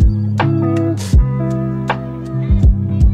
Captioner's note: none